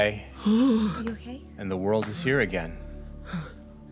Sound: X shudders a sigh

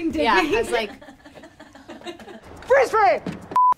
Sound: laughs

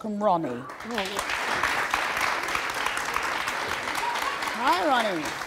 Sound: audience applauding

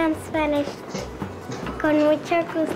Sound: child speaks Spanish

